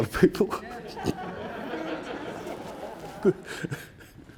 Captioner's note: audience laughing